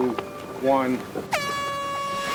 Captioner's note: air horn blows